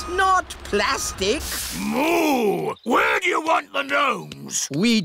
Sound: boos

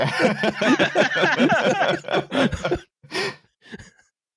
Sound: laughter

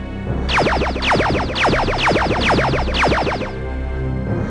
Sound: lasers firing

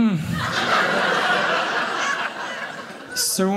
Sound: audience laughing

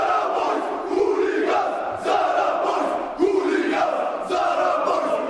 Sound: fans screaming

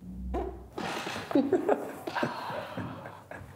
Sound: farts; laughing

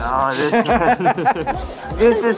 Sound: laughs; Noah laughs

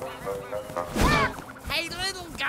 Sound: ducks quacking; Digit and duck bumping

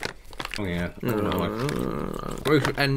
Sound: chewing Sounds

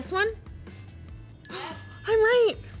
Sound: bell dings

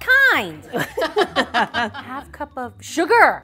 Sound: laughter

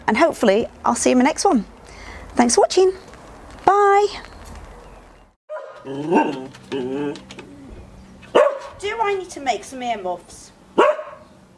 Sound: dog barks

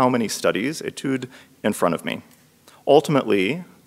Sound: speaks in foreign language

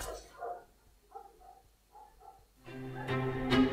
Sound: dogs barking; dramatic violin music

